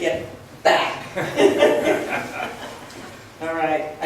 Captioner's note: laughs